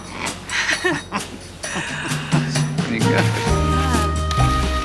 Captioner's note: chuckles; upbeat music